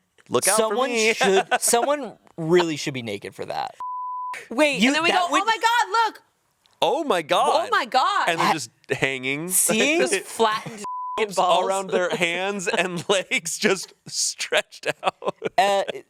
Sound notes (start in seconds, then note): 1.0 laughs; 3.8 beep; 10.8 beep